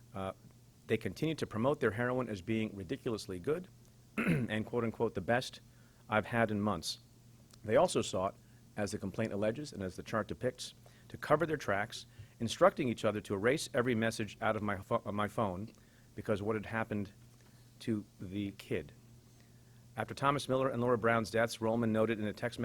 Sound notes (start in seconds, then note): 4.2 clears throat